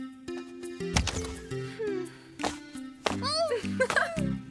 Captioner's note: door opening